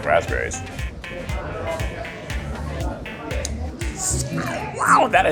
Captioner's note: gentle upbeat music; people chattering